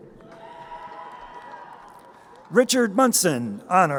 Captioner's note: crowd cheering